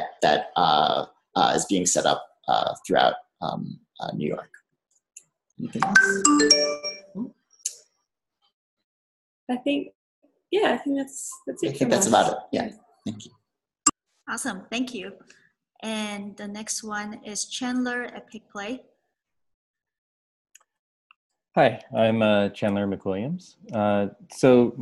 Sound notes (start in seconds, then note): 5.7 computer chimes